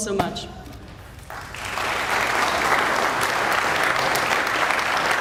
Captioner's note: audience applauding